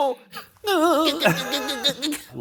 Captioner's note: muttering